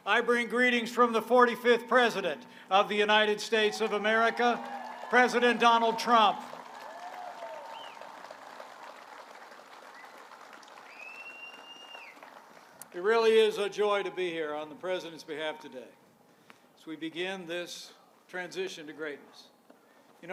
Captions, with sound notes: I bring greetings from the 45th President of the United States of America, President Donald Trump! (applause) It really is a joy to be here on the President's behalf today, as we begin this transition to greatness.